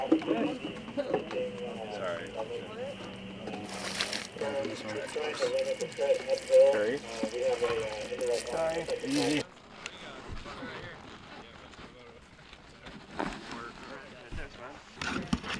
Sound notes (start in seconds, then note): 3.4 water trickling; 10.1 crew chattering